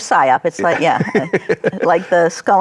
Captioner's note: laughs